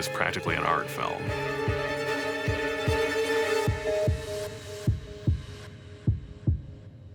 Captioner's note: dramatic music; heart pounding